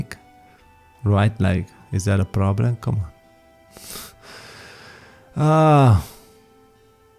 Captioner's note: long sigh